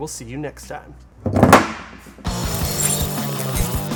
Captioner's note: gun thuds; rock music; electronic squeals